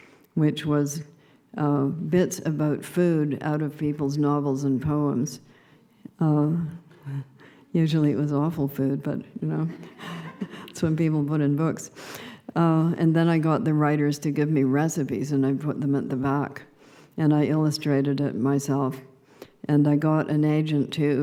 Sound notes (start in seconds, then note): 9.7 laughter